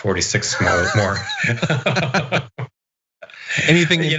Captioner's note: laugh